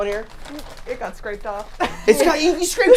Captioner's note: laughing